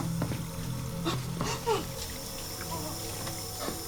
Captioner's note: whimpering